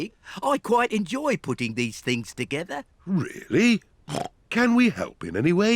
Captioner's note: snorts